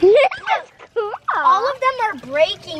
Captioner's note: kids laughing